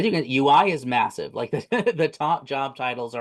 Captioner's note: laughs